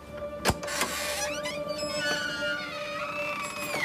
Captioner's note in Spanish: Ruido al abrir la puerta